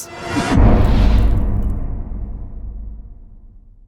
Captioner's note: impact